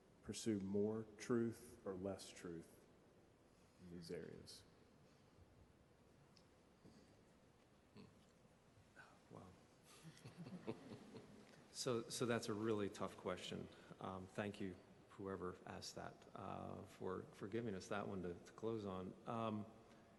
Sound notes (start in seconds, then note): 10.0 chuckling